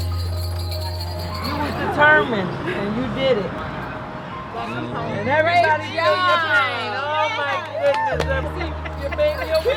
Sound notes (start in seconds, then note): 6.4 crowd cheering